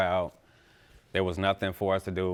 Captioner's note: none